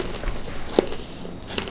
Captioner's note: crunchy